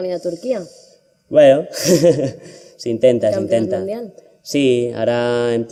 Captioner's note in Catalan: Riu